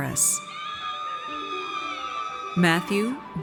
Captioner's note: audience cheers